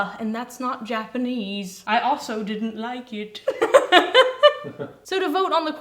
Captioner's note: laugh